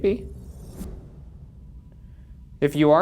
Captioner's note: light whooshes